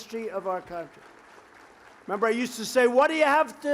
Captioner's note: applause